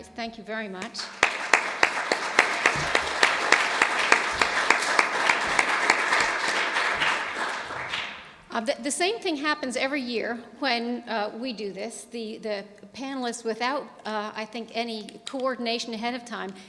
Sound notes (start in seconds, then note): 3.4 clapping